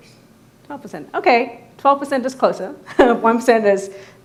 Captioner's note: laughs